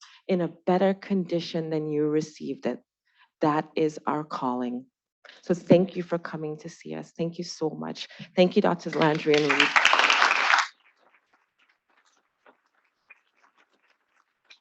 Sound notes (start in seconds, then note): 8.9 attendees applauding